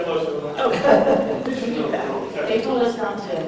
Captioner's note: laughter